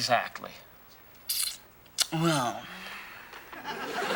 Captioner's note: sucks teeth